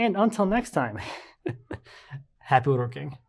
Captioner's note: speaker laughing